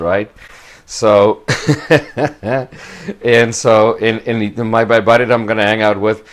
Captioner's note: laughs